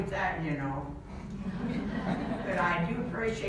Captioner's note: audience laughs